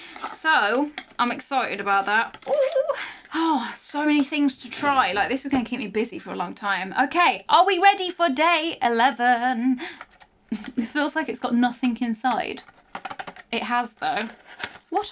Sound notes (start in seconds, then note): 12.6 box rattling